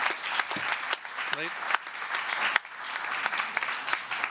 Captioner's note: applause